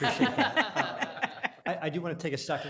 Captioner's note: laughing